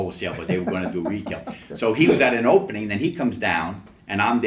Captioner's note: laughs